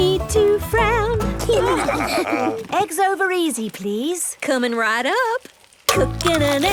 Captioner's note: laughing